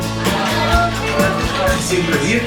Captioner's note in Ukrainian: Аплодисменти